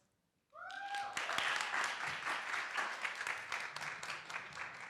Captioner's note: applause